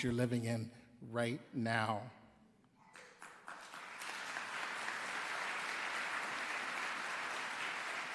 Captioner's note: applause